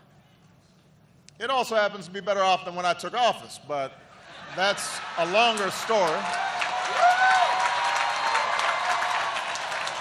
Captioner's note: laughter